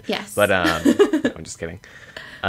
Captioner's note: laughs